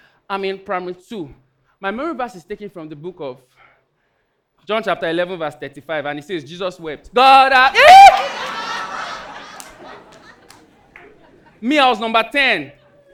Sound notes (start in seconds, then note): 7.8 audience laughing